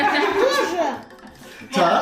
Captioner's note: the girls are laughing